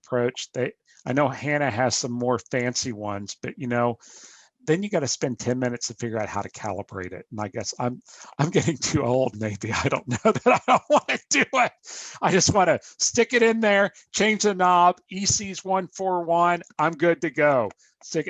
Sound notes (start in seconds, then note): 9.6 laughing